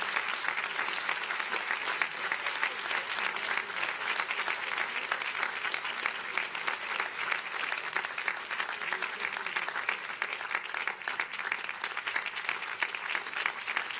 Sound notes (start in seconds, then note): 0.0 cheers and applause